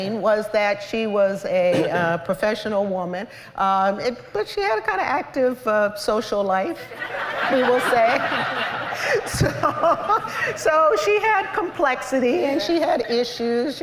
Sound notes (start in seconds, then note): 6.9 laughter